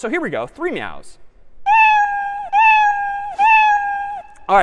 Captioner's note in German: miauert